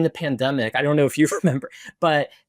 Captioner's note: laughs